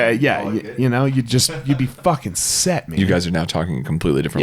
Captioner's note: laughs